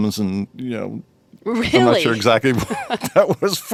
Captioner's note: laughing; laughs